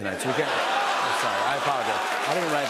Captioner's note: laughter